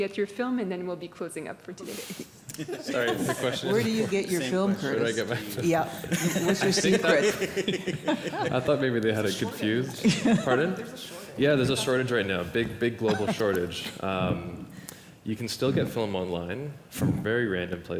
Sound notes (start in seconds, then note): 2.5 laughter